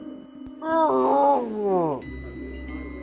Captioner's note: zombie growl